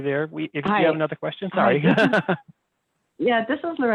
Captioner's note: laughs